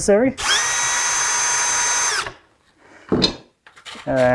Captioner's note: tool whirring